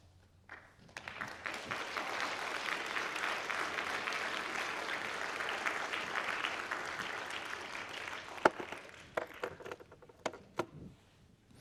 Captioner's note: applause